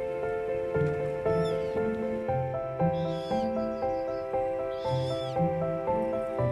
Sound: birds chirping

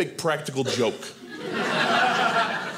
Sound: audience laughing

